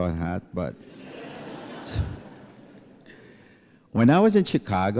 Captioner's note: laughter